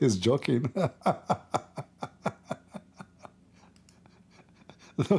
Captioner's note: Ketawa